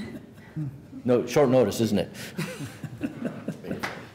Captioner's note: laughter